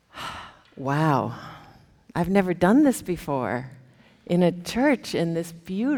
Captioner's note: sighs